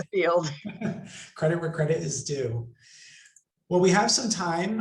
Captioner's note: laughs